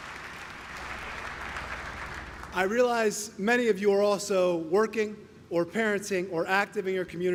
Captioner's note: applause